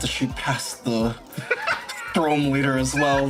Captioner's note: laughs